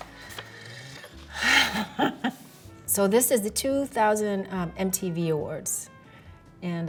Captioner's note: chuckles